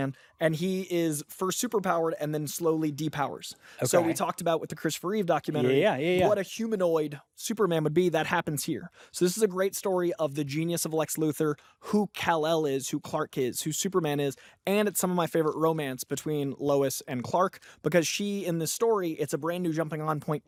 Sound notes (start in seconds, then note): none